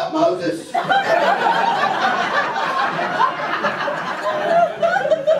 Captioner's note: audience laughter